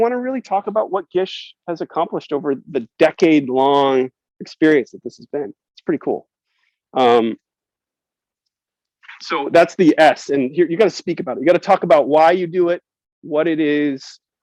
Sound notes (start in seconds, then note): none